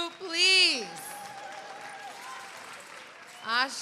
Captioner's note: cheers and applause